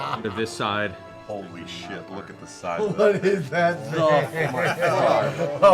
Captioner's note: laughing